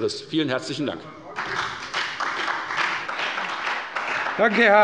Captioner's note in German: Beifall bei der FDP und bei Abgeordneten der SPD